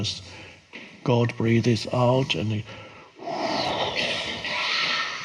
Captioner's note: exhales